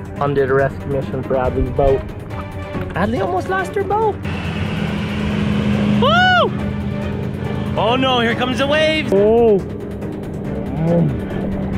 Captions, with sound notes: Mom did a rescue mission for Adley's boat. Adley almost lost her boat. (boat motor) Whoo! Oh no here comes the waves. (murmuring)